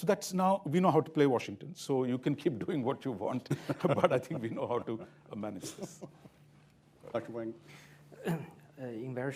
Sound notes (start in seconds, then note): 5.5 laughter